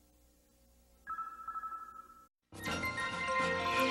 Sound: signals beeping quietly

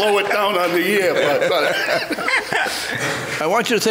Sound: Frank laughs

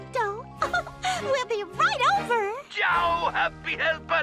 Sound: giggles

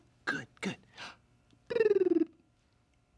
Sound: fluttering tongue

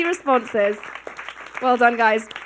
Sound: audience clapping

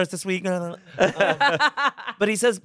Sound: everyone laughs

